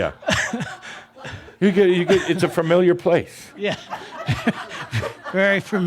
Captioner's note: chuckles